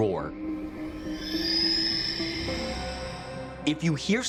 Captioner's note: creature screeches